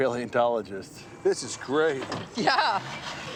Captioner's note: laughing